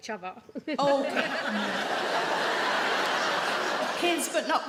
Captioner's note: audience laugh